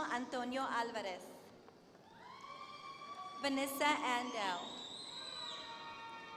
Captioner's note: applause